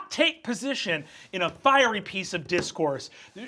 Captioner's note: fingers drumming